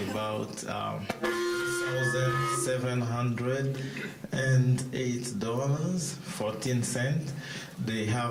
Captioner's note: mic feedback